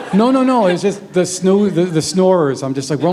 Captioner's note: laughter